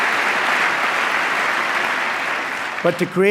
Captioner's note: applause